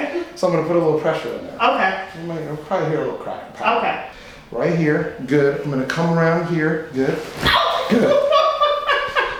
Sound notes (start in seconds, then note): 7.5 loud popping; 9.1 laughing